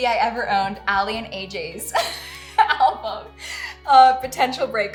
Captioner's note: laughing